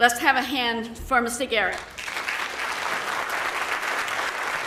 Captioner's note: audience applauding